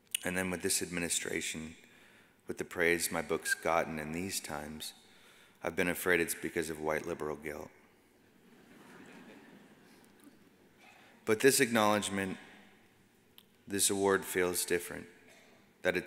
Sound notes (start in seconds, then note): 8.4 audience laughs